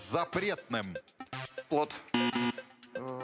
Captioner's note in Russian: пи-пи